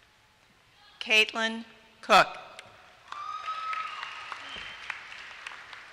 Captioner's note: applause